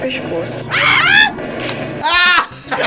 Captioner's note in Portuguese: gritos; risos